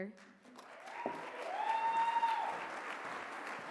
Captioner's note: applause